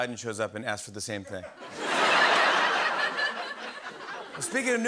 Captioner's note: laughter